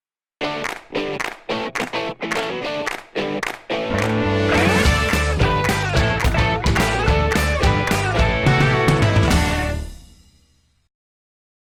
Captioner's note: claps